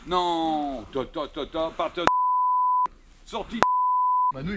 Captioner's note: beep